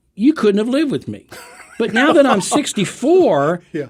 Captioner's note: laughing